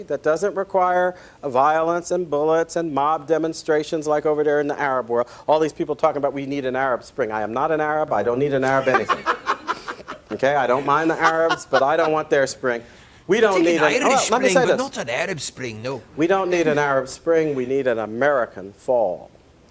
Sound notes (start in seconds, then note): 8.7 laughs